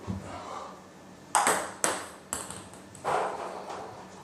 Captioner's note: ball ping pong hitting